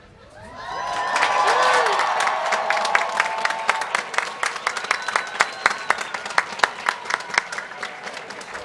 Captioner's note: applause